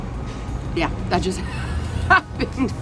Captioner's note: laughs